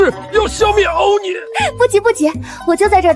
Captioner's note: gag